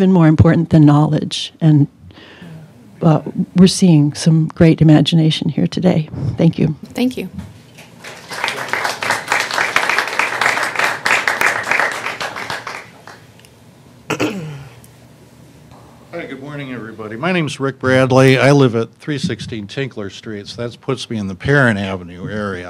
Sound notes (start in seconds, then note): 7.8 applause